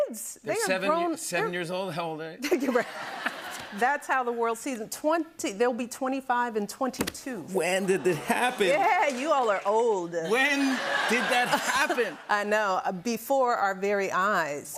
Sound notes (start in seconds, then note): 2.4 laughter; 10.2 laughter